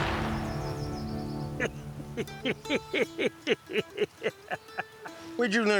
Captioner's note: laughing